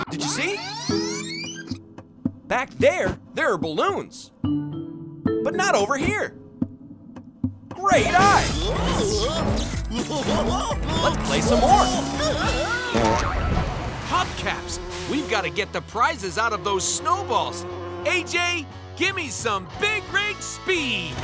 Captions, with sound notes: Did you see? Back there, there are balloons, but not over here. Great eye! [laughing] Let's play some more. [laughing] Hubcaps! We've got to get the prizes out of those snowballs. AJ, give me some big rig speed!